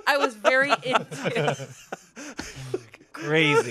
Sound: everyone laughs

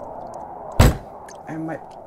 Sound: thump sound

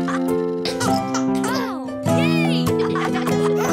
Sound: kids laughing

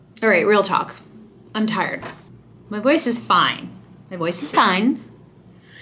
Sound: none

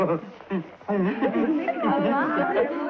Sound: chattering

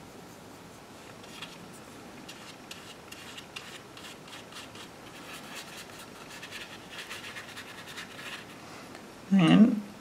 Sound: brush sweeping continues

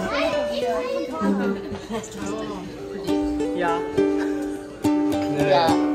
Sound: speaking German

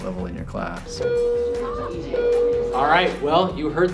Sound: bell rings

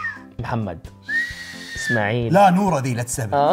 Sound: whistles

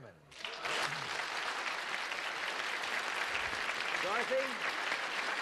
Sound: cheers and applause

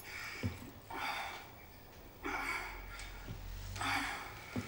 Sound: gasping

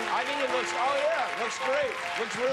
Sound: cheers and applause

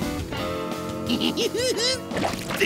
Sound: giggling

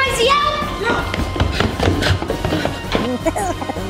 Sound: loud footsteps; elf chuckles

